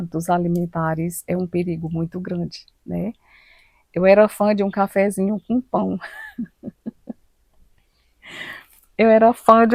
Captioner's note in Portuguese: risadas